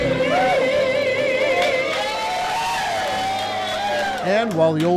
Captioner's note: group cheering